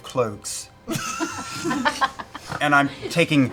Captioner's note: laughter